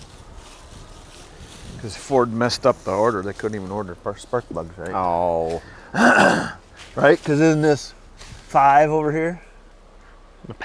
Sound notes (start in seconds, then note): 5.9 clears his throat